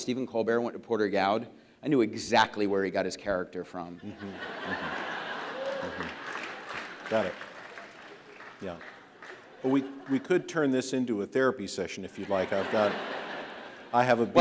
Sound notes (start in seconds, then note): 4.4 audience cheers